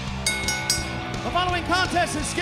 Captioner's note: bell ringing